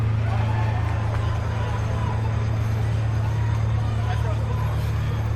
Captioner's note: bells ring; ominous music